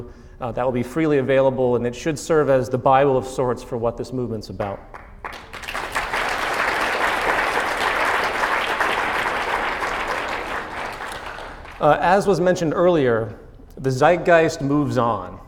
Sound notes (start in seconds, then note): 7.0 clap